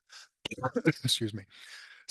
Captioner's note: coughs